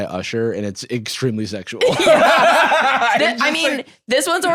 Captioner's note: laughs